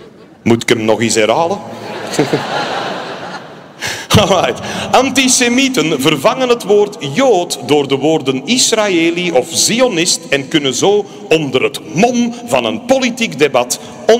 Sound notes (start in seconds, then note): 1.7 laughter